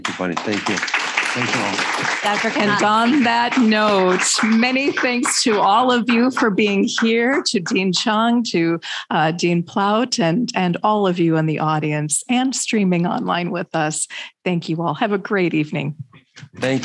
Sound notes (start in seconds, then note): 1.8 people clapping